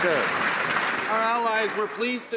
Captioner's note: applause